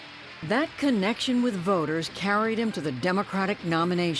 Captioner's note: voice-over